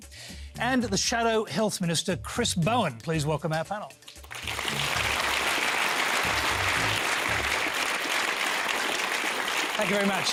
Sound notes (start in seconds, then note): 4.1 applause